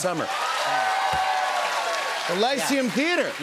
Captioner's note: cheers and applause